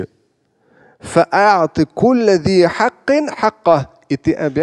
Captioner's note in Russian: Говорит на арабском